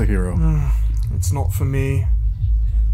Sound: sighing

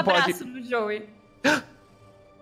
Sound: gasps

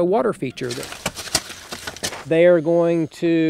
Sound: shovels rustling

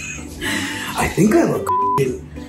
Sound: laughing; beep

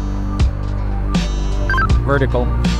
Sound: radio beep

